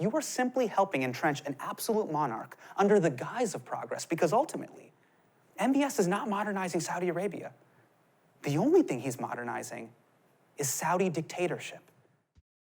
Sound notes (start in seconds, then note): none